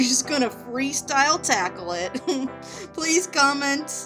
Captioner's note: giggling